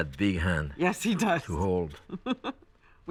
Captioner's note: laughs